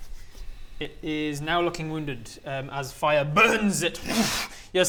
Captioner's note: wrssch